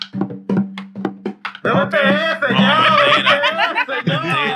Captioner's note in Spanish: Música de percusión; Risas; Hablando en idioma extranjero